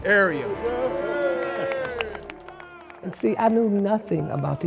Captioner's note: crowd cheering